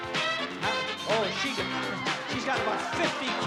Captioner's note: cheering